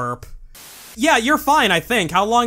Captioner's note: static